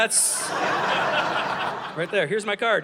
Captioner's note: audience laughing